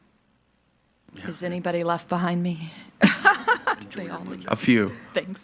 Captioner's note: laughs